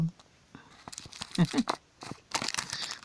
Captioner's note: laughs